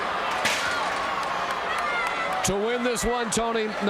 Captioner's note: scaffold rattling